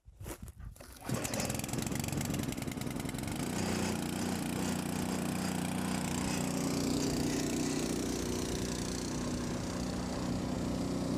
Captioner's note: medicine pump motor working sound